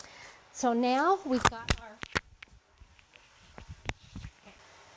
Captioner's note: mic rustle; mic drop